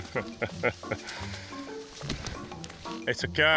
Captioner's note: chuckling